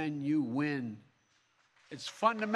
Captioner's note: applause